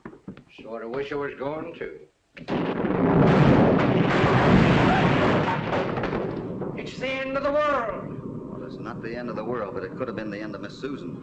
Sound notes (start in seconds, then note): 2.5 beam bangs; 2.7 loud thunderclap